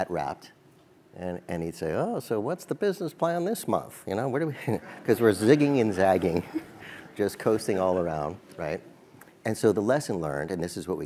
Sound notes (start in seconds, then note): 6.2 laugh